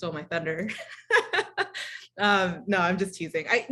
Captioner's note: laughter